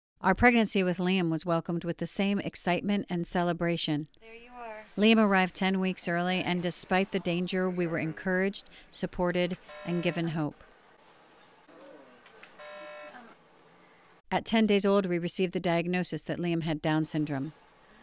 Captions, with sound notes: Our pregnancy with Liam was welcomed with the same excitement and celebration. Liam arrived 10 weeks early and despite the danger we were encouraged, supported and given hope. (Monitor Beeps) At 10 days old we received the diagnosis that Liam had Down syndrome.